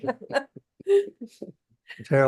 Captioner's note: laughter